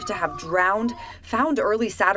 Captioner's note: fire truck siren